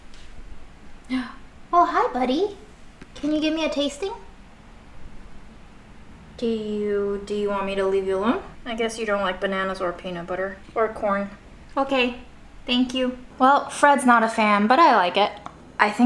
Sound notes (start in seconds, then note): 1.1 gasps